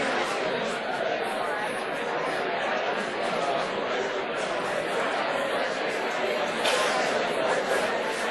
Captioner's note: class Chatter